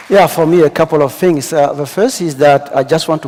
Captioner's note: applause